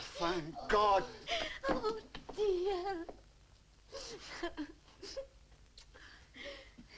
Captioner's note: sobs